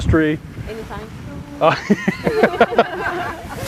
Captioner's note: laughter